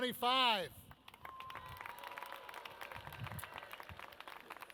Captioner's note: audience cheers